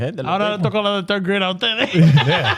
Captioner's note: speaking In Foreign Language